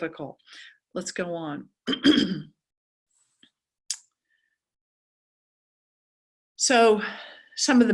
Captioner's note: cough